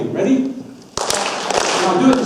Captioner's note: audience claps